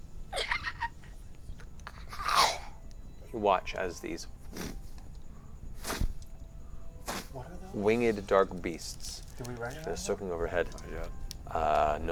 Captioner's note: wings flapping